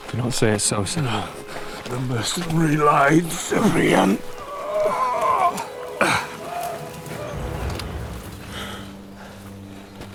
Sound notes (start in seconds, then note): 5.1 groaning